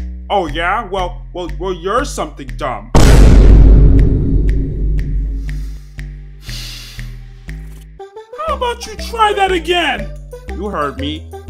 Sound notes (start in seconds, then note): 6.4 sigh